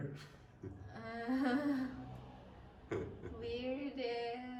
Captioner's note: groans